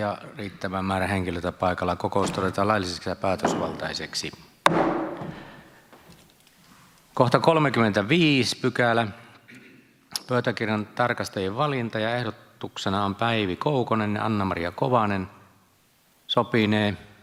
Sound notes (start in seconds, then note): 4.6 Nuijan kopautus